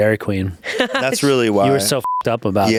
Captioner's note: beep